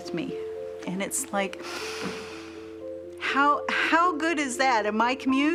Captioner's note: inhales